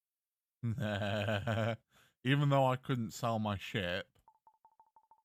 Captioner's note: mischievous chuckle